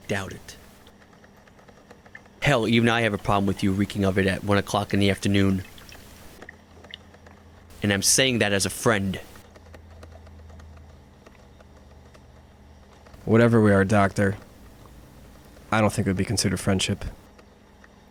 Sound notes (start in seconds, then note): none